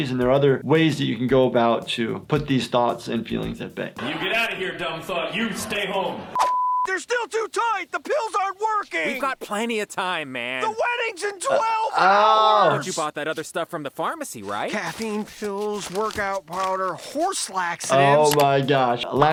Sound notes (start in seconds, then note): 6.3 beep